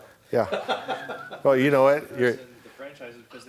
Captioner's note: laughter